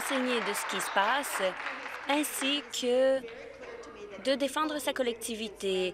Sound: applause

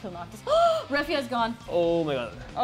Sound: gasp

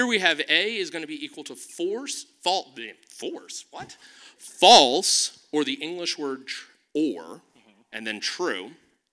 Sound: none

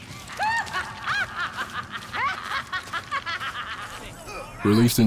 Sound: squawk-ish laughter

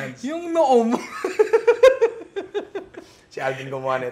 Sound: laughs

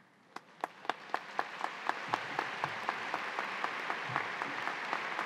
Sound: audience applauding

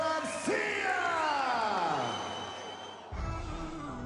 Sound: crowd cheering; upbeat music

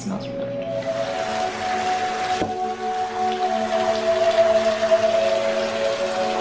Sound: relaxing flute music; bath water running

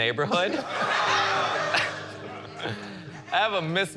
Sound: laughter

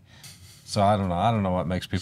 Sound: chuckles

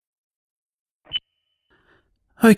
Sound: recorder beep

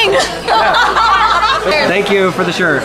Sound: laughter

